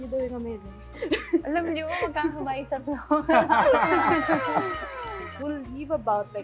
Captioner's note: laughs; laughs